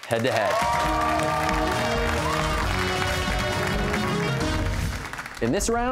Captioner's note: cheers and applause